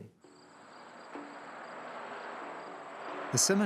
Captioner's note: crickets chirping